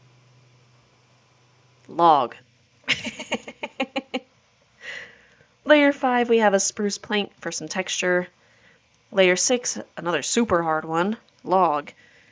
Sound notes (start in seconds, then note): 2.8 laughter